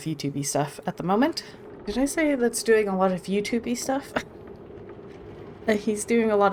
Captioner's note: laughs